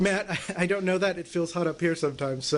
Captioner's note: laughter